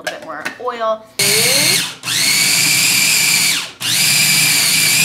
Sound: food processor whirs

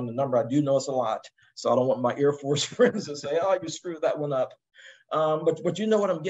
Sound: laugh

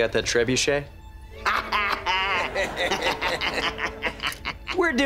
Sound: laughing

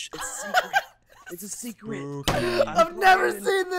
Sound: cracking up

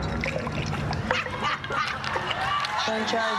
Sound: laughing

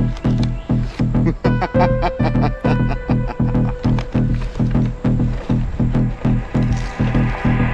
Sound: laughs creepily

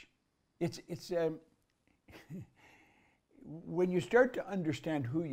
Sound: laughs

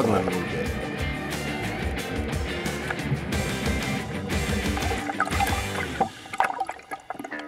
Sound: steady rock music; water churning

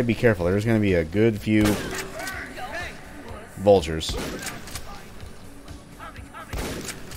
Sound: shotgun blasting

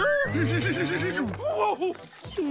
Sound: cheers

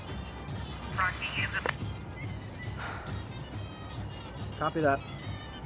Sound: radio crackles

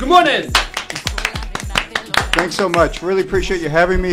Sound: applause

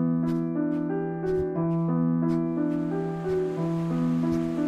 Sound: mindful piano music; sandy footsteps walking

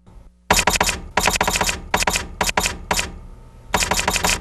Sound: keys clack more loudly

